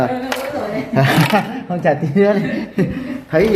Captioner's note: clap